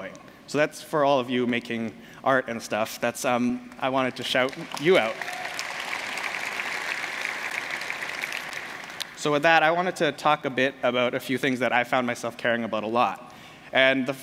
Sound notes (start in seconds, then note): 4.1 applause